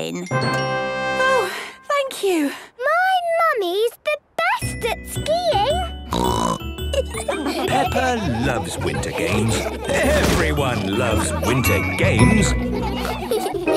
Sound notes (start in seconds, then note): 0.2 triumphant music; 6.1 snorting; 6.7 laughter; 12.6 laughter